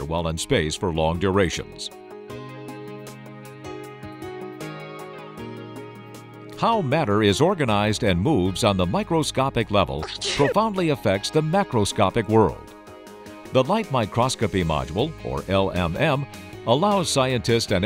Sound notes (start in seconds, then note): 10.0 sneeze